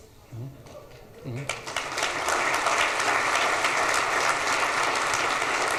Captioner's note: audience applauds